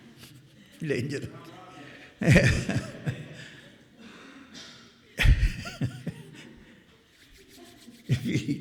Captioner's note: laughter